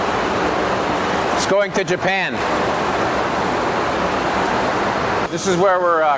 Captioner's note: machinery running